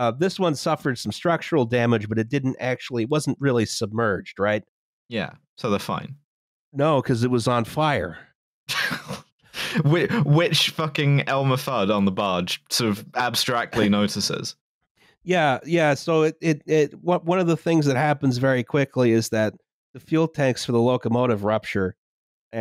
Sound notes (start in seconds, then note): 8.7 laughs